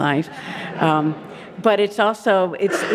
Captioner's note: audience laughing